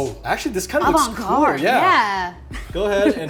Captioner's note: chuckles